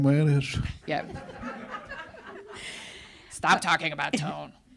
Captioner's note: audience laughs